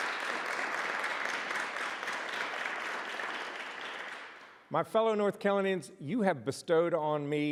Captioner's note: applause